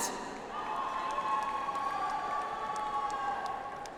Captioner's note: audience applauds